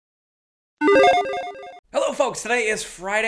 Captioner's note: logo beeps